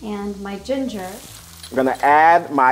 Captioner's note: mixture sizzling